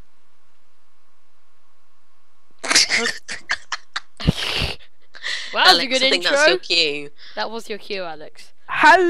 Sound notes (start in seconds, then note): 2.6 laughs